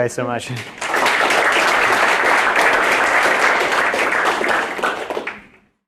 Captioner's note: applause